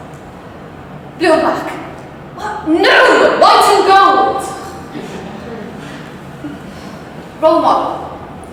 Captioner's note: laughter